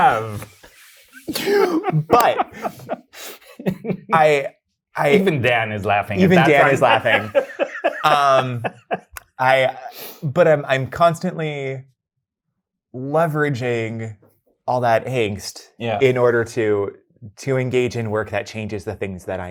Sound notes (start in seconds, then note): 1.1 both laughing; 8.7 guy laughing